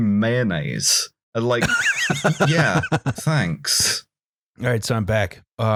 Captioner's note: laughs